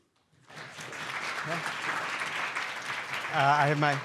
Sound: students applauding

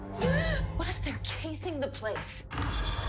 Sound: Dorothy gasps

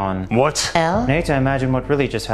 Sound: female voice

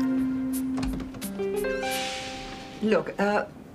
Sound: door opens

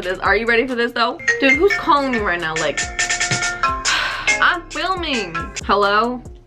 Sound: phone rings; sigh

